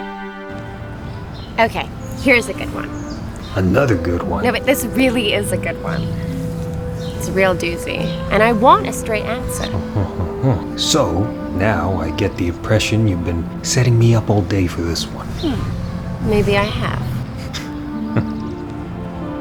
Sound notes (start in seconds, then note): 18.1 Max chuckles